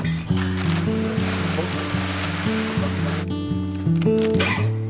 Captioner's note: gentle music; material clacks